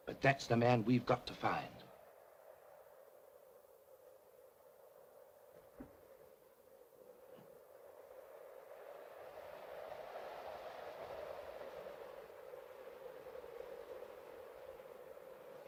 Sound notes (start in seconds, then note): 2.6 wind blows